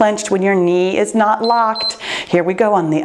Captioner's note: timer beeps